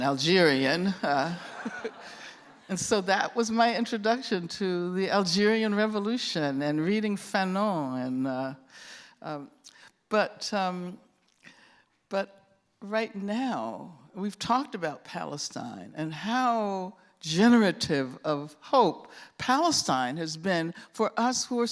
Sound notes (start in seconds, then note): 1.3 laughter